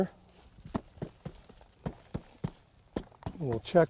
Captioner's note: thuds